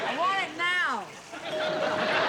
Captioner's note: laughter; doorbell rings